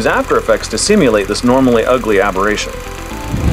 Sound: film projector running; whoosh

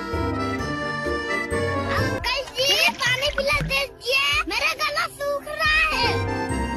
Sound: Saiman chugs in water

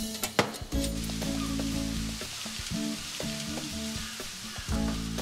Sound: seagulls squawking; upbeat Latin music

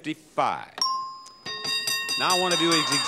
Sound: bell chimes

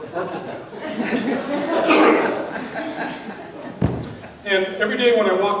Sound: audience laughing

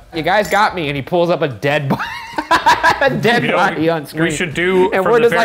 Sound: laughs

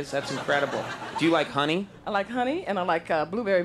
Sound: audience laughing

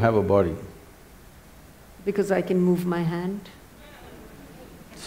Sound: laughter

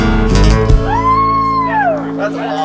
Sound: cheering

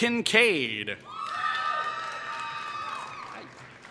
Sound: applause

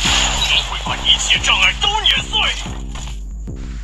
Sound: engine roaring

